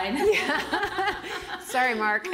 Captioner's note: laughing